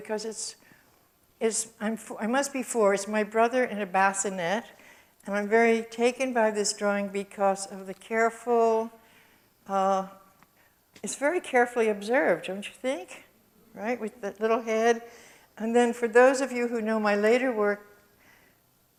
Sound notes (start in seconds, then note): none